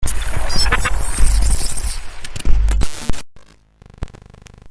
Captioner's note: electrostatic burst